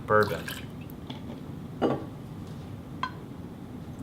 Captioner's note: liquid splashing